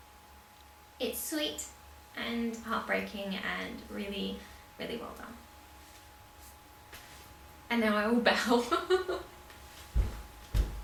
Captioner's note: laughs